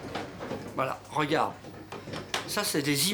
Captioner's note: speaking French